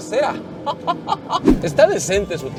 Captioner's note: laughter